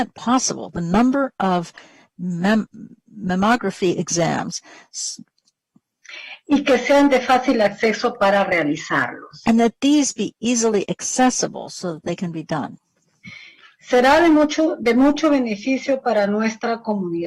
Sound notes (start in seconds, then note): 10.8 speaking spanish